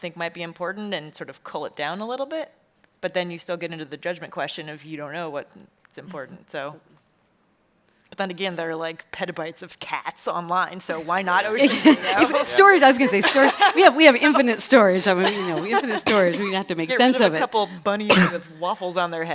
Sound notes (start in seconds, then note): 11.5 chuckles